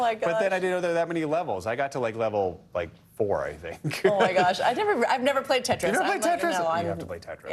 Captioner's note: laughter